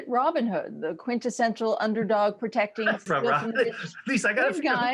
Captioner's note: laughing